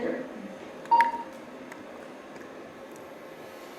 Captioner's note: beeps